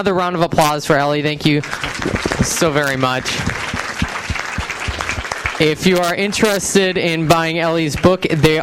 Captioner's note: audience applauds